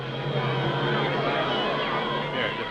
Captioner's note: chattering